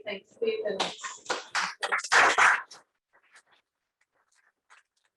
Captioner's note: applause